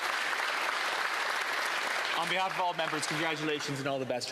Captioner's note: applause